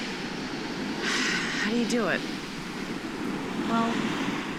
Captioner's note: sighs